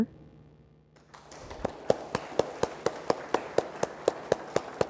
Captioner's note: audience applauds